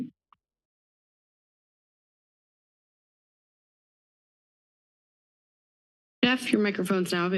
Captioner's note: silence